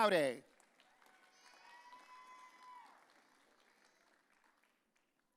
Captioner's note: audience cheering